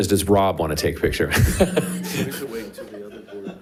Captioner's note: all chuckling